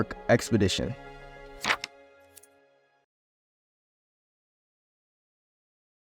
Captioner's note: page flipping